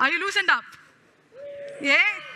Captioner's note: cheering